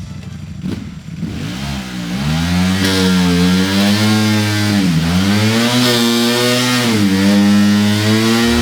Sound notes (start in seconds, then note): 1.2 engine revving